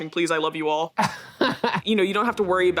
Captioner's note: laughing